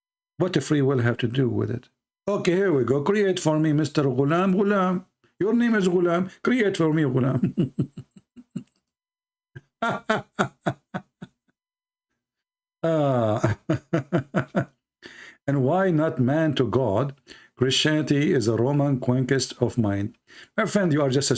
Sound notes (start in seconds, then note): 9.7 Ketawa